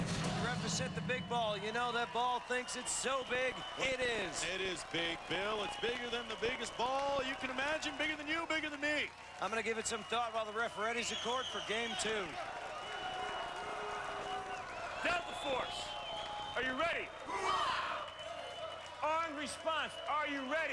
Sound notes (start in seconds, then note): 16.2 cheers; 20.5 cheers